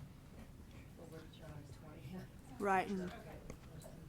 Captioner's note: speaking faintly